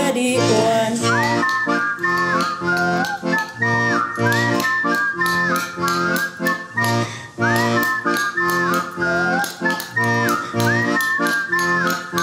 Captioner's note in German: Pfeifen und Löffelschlagen